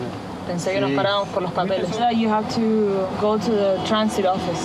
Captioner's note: speaking In Foreign Language